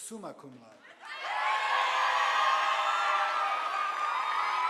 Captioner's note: audience applauding